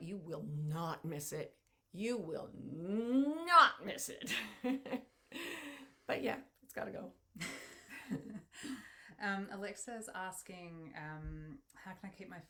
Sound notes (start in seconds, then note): 5.3 laughs softly; 7.4 both women laughing